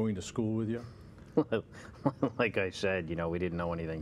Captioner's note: chuckle